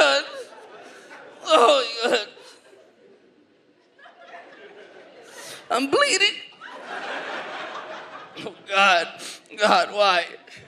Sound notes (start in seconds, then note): 0.2 audience laughs